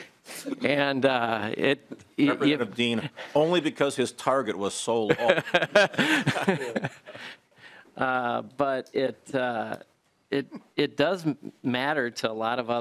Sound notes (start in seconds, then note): 5.1 laughing